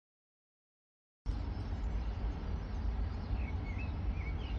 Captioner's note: wind, birdsong